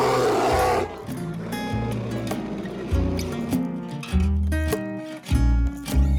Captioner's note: grizzly Roar